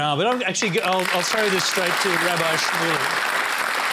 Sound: applause

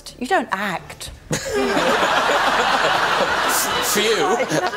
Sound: audience laughter

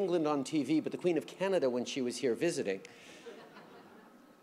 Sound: laughter

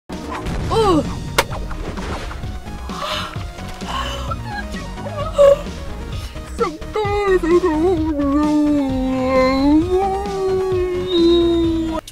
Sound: yawning; yawn

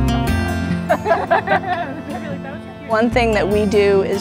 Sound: laughter

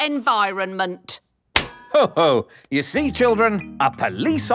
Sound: slaps

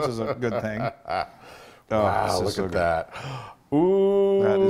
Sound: laugh

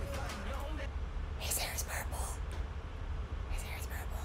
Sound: aggressive whisper

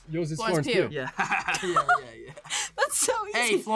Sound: laughs

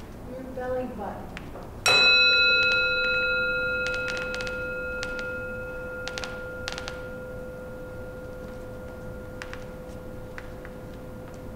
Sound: gong

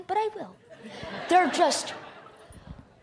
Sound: laughter

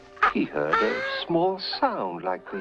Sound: cooing

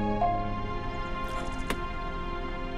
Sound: car door opens

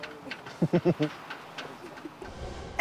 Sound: chuckles

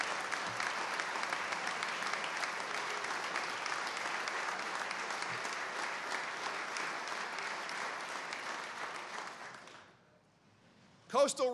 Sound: applause

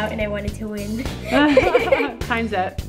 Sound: both laugh

